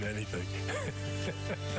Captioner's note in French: laughter